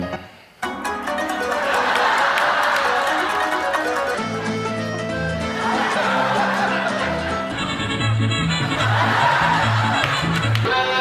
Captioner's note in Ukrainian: Сміх